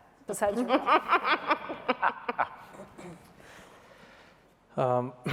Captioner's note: laughter